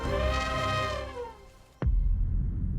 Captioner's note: mammoth trumpeting